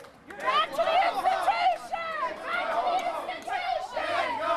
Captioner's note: crowd chanting